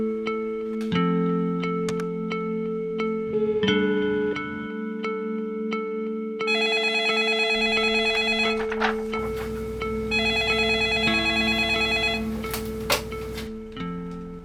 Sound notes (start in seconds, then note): 2.1 telephone